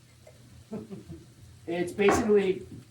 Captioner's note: chuckles